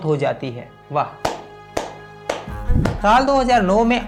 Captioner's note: clap